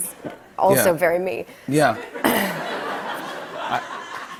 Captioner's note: clears throat